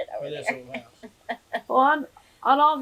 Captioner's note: laughs; laughter